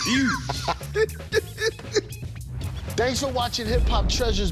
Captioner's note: both laughing